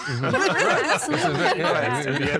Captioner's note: all laughing